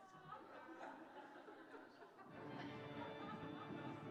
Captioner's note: audience laughing; dramatic music